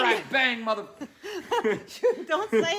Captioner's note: laughing